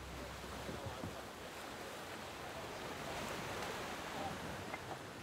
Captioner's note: waves crashing